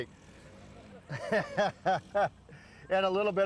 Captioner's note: laughs